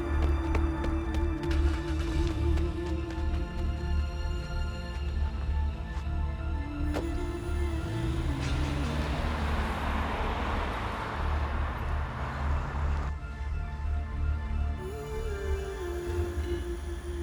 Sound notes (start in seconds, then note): 1.9 car starts; 6.8 door shuts; 8.3 engine hums